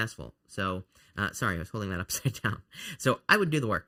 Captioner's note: chuckles